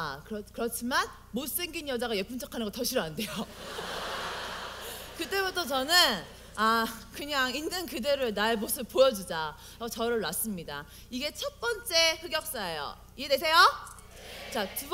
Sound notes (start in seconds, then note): 3.4 audience: Laugh